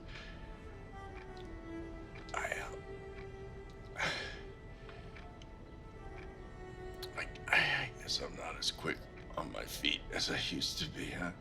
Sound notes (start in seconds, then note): 3.9 gasping